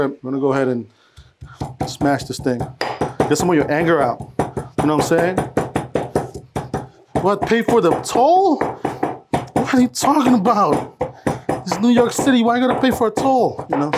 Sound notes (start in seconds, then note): 5.5 pestle hitting mortar